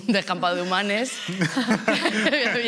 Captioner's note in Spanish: Risas